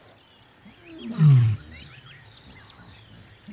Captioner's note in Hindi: दहाड़